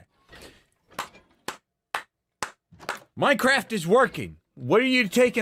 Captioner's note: claps